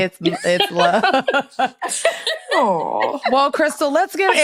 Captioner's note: laughing